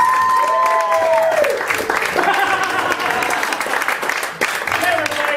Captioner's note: audience applauding